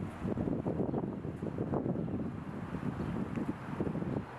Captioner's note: wind blowing